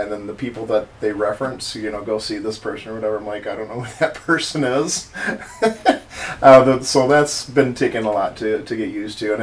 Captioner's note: haha